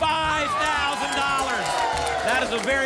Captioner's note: applause and cheering